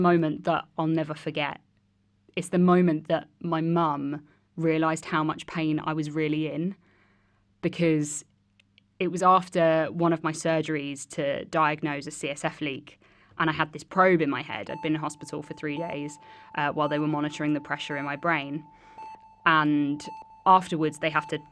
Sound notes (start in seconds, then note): 14.6 sound of Heart Monitor